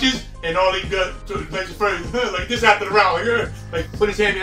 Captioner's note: mumbling, imitates deep voice